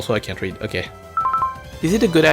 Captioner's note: pause menu sound